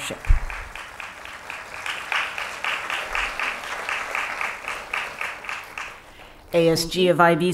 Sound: applause

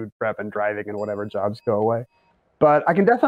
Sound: bell dings

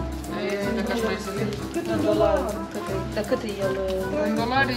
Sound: speaking either Russian or Romanian

